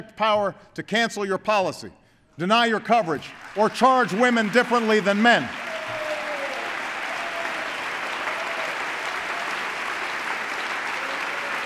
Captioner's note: applause